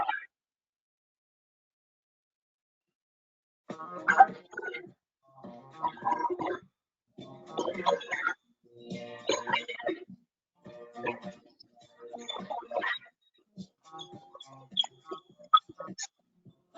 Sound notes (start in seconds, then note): 4.3 audio distorting; 4.3 disco music